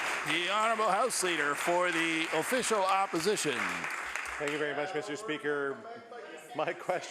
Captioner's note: applause